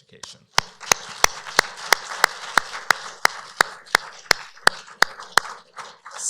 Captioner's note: applause